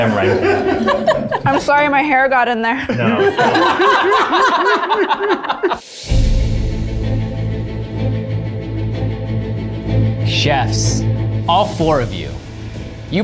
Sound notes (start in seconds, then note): 0.0 all laughing; 5.8 suspenseful music